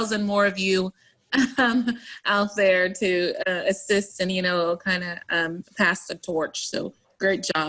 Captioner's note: laughs